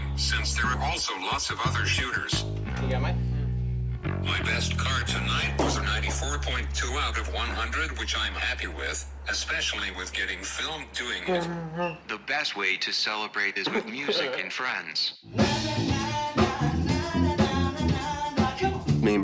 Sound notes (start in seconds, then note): 11.5 chuckles